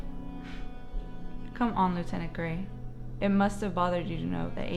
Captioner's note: scoffs